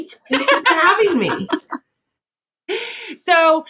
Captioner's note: laugh